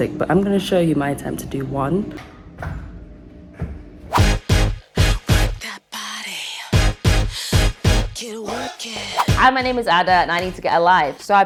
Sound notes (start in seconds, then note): 2.7 feet thud on floor; 4.1 upbeat music